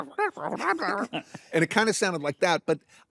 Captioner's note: imitates weasels; laughs